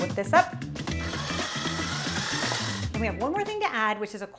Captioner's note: mixer beaters whirring